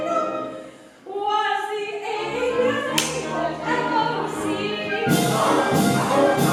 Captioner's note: slap